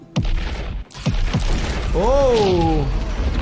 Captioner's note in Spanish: explosión resuena